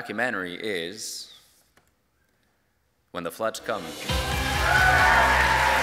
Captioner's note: applause